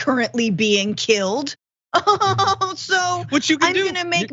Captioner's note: laugh